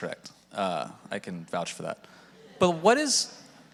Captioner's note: audience laughing